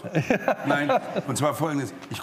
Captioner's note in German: Lachen